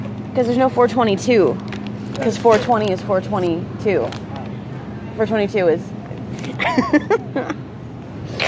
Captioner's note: laughing